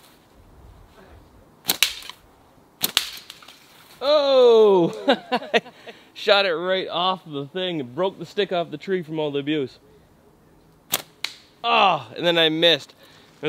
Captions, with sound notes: - Oh! (laughing) Shot it right off the thing and broke the stick off the tree from all the abuse. Oh and then I missed.